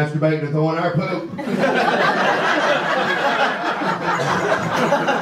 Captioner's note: audience laughter